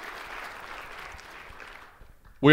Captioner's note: applause